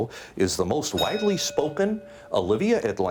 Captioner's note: bell dings